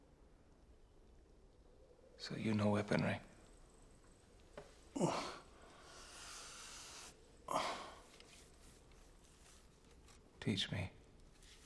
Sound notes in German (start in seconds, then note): 4.9 Grunzen